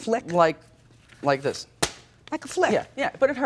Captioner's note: paper snaps